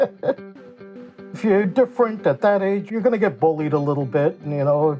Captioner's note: chuckles